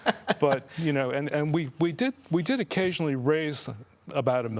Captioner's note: laughing